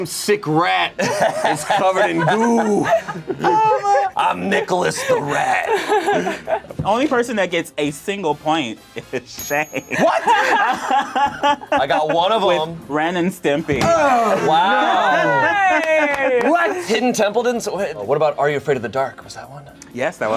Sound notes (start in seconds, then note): 6.0 group laughs; 9.6 group laughs; 14.2 overlapping chattering